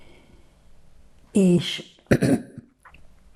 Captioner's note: clears throat